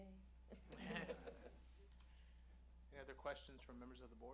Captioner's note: laughter